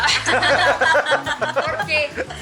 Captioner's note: laughter